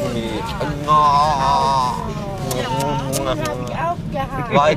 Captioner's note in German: Kussgeräusche